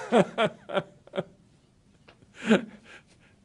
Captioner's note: laughter